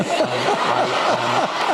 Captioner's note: laughter